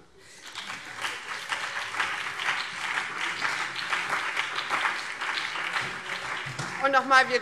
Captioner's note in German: Beifall BÜNDNIS 90/DIE GRÜNEN, CDU und vereinzelt SPD